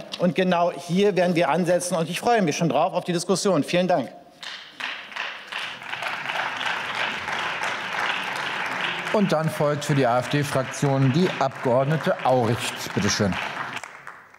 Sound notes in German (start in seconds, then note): 4.7 Beifall